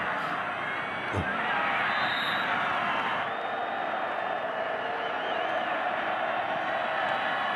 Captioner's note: fans cheer; referee blows whistle